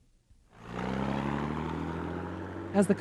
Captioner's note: truck engine roaring